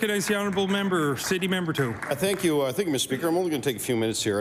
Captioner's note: applause